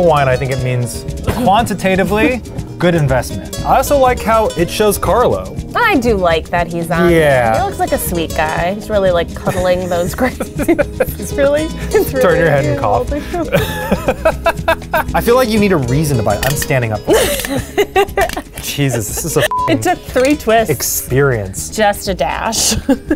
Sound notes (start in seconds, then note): 13.3 both laughing; 19.4 beeps